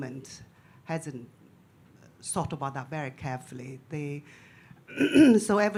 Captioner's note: clears throat